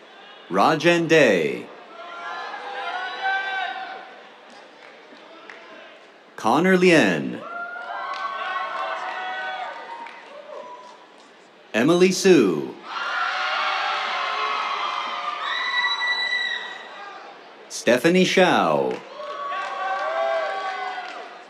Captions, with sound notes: Rajen Dey. [CHEERS, APPLAUSE] Connor Lien. [CHEERS, APPLAUSE] Emily Su. [CHEERS, APPLAUSE] Stephanie Xiao. [CHEERS, APPLAUSE]